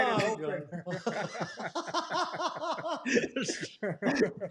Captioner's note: laughter